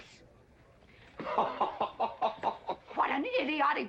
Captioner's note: GW laughing hard